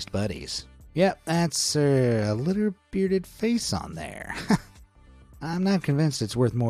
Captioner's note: chuckles